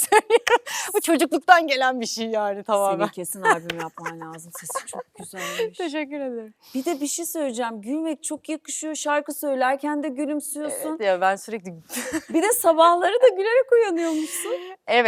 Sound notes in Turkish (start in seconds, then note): 0.0 kahkaha; 3.4 kahkaha; 12.0 kahkaha